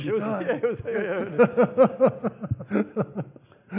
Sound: laughs

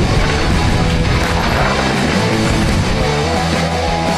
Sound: uplifting music; crowd; uplifting music

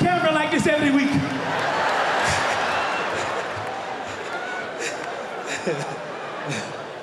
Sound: laughter

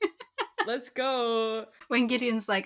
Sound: laughs

